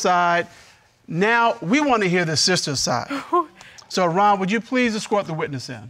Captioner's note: exhales